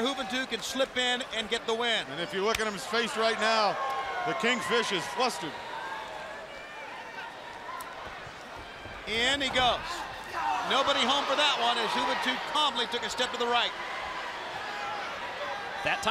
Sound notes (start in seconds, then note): 5.9 crowd chatter